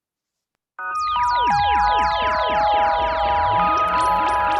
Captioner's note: weird alien sounds